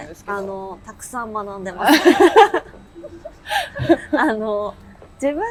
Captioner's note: laughs